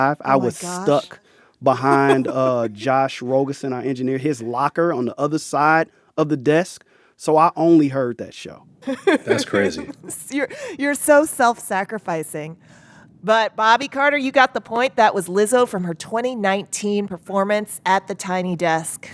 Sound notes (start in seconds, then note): 8.8 laughter